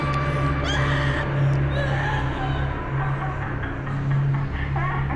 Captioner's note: soft intense music; Paula screaming; captive laughing; soft eerie music